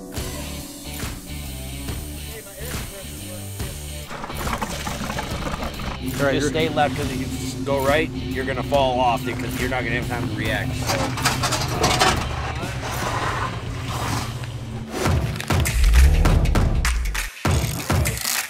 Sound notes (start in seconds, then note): 0.0 upbeat music; 12.4 metal clanking; 15.5 upbeat music